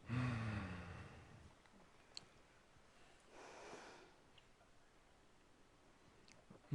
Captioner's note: exhaling deeply